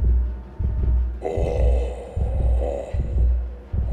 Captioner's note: snarling